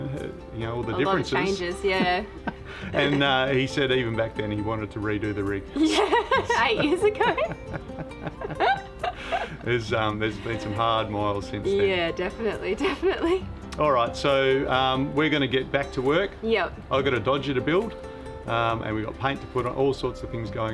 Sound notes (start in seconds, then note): 8.4 laughing